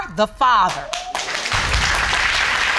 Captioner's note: crowd applauding